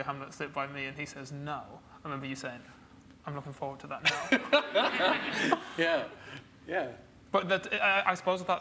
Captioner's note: laughs